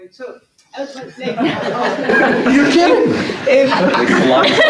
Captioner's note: laughter